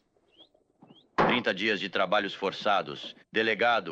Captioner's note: gavel bangs